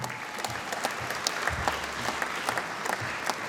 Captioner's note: applause